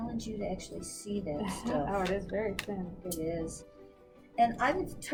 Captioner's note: laughs